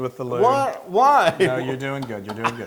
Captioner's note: laugh